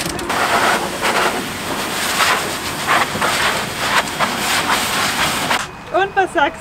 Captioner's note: hairdryer noises